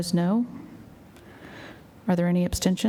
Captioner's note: silence